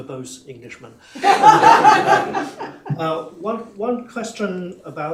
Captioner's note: laughter